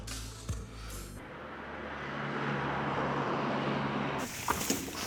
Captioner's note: traffic humming